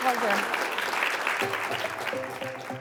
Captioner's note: applause